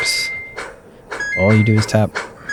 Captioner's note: graphics beeping